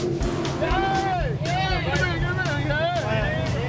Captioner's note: cheering